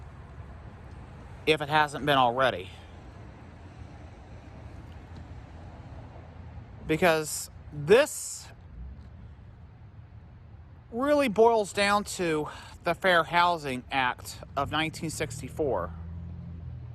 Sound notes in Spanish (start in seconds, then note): none